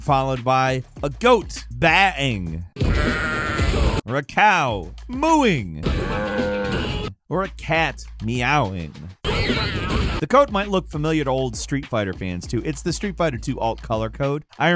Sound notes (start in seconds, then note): 2.8 goat bleats; 5.8 cow moos; 9.0 cat screeches